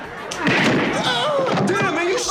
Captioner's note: man groaning; gunshot ringing